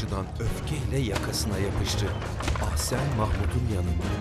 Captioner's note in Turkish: At arabası sesi